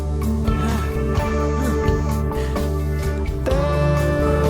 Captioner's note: Elvis grunting and panting